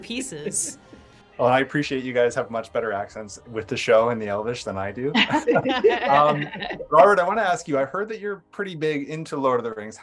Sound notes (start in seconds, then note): 5.1 laughs